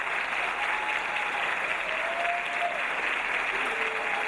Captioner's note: audience cheering